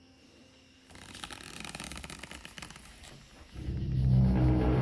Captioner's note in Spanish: crujido de huesos; música de suspenso